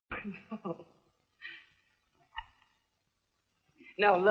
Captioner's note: laughing